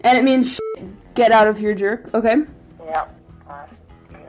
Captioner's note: beep